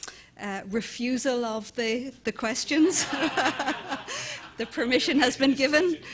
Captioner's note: laughing